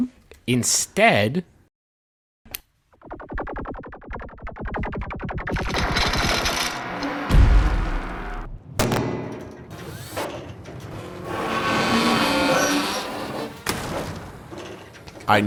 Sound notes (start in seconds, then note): 2.1 button clicks, revolving laser sound; 6.8 metal creaks and clangs